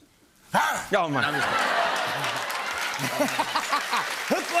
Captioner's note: laughter, cheers, applause